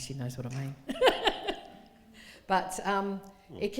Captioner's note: laughing